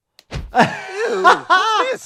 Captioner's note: doctor laughing